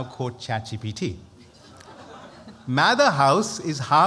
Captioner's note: laughter